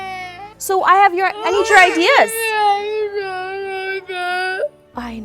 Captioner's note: child crying; child crying